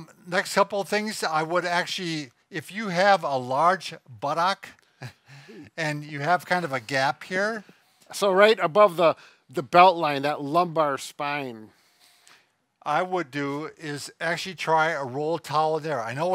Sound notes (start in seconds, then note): 4.9 laughing